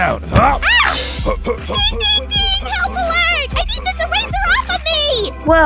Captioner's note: climbing sounds